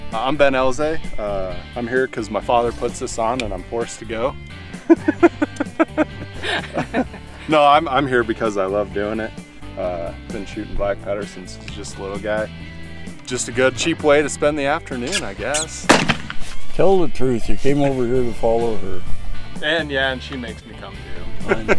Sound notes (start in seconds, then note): 4.8 laugh; 15.6 gunshot; 21.5 laughs